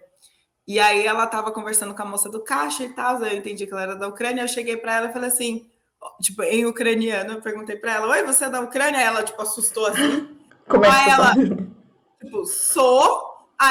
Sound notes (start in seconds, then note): 5.8 in Ukrainian